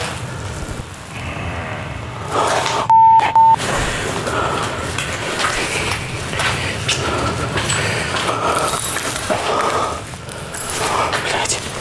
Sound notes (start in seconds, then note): 1.2 sound of growling; 9.2 sound of footsteps